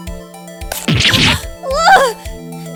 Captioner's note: click, SHLING!